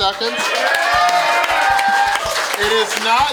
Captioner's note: crowd cheers